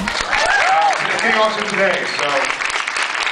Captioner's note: applauds; applauds, cheers; applauds